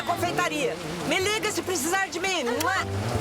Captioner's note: kisses